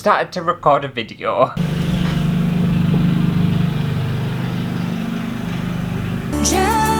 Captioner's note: lawnmower Motor